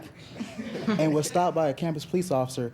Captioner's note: students chuckling